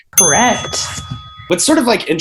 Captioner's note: ding